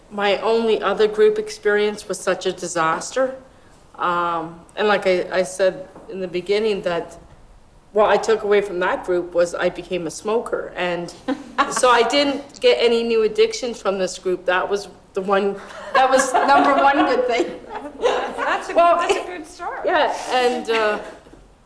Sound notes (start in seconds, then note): 18.4 laughs